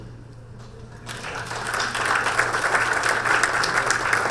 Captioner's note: applause